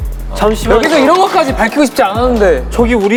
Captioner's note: yelling